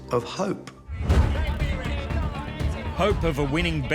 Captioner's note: all shouting